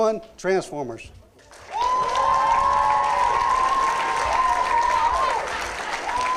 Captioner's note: applause